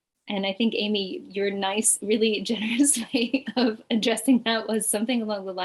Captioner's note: chuckles